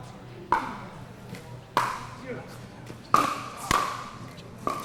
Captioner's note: ball being hit